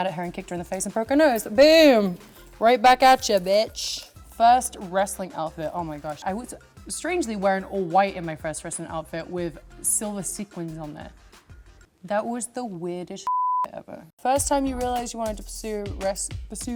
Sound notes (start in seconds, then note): 13.2 beep